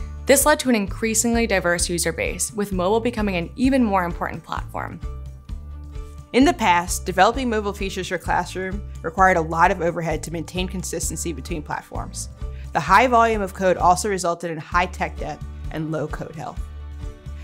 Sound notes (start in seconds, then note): none